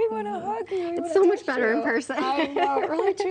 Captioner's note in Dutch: laughs